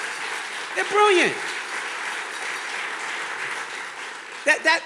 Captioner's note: audience clapping